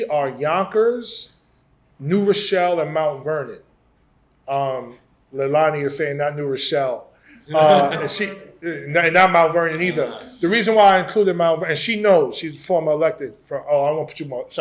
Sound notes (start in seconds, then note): 7.3 laughs